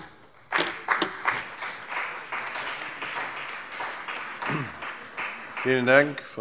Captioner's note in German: Beifall bei dem BÜNDNIS 90/DIE GRÜNEN und der CDU